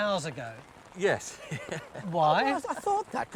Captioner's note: chuckles